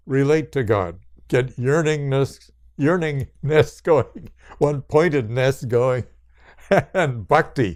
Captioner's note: laughs